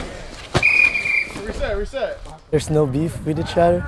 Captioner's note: whistle blows